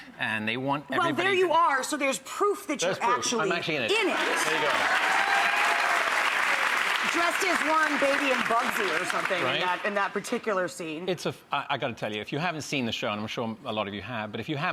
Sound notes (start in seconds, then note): 5.8 audience applauding